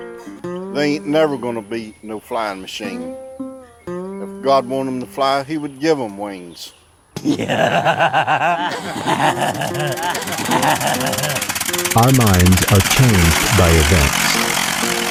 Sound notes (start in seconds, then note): 7.2 roaring laughter